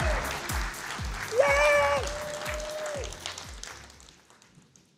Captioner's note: cheers; applause